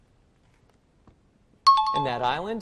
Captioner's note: chiming